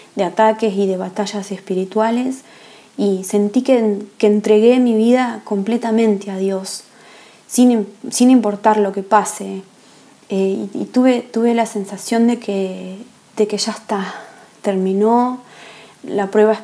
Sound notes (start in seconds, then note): 12.8 breathing